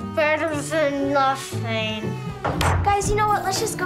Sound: table rattling

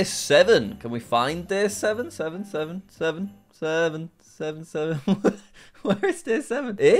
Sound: laughs

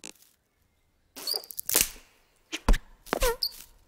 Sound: bird chirping; farting

